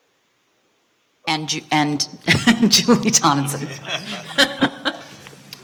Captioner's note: laughing; Regents laughing